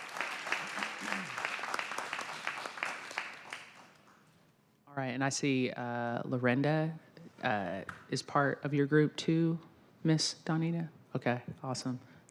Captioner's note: applause